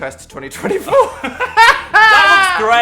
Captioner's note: Dan laughing